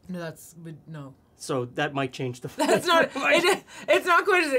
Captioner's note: both laugh